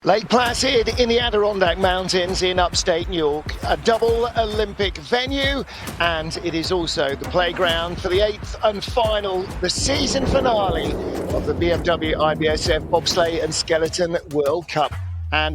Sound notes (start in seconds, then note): 4.7 thumping percussive music; 9.2 sled rumbles on ice